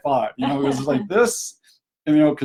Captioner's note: laughs